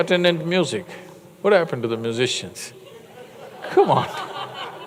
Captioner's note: laughter